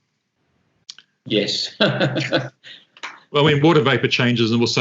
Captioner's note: chuckles